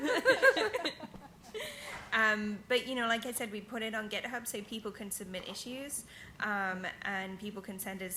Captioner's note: laughing